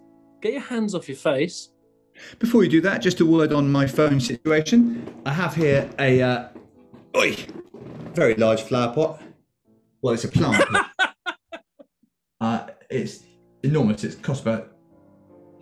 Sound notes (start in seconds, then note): 7.1 grunts; 10.5 laughing